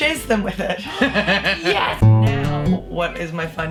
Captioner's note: laughs; guitar strums